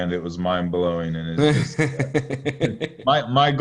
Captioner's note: chuckling